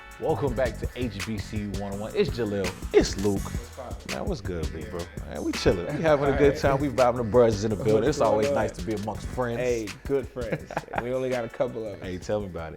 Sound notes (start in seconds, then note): 5.3 laughs